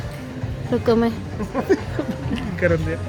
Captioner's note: laugh